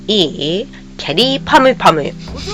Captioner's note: laughs